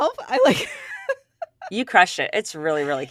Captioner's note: laughs